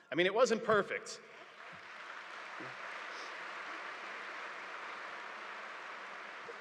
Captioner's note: audience applauding